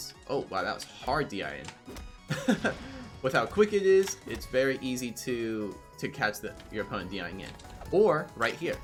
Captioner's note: laughs